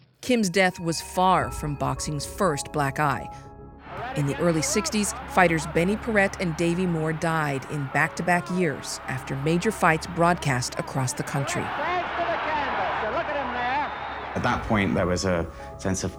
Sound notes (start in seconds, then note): 11.7 cheering; 12.4 whistling